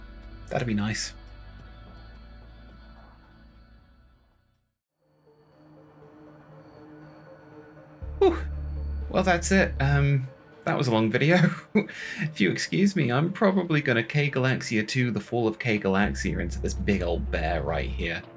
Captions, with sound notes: That'd be nice. *Exhales* Hooh! Well, that's it. That was a long video. If you excuse me, I'm probably going to K. Galaxia 2 The Fall of K. Galaxia into this big old bear right here.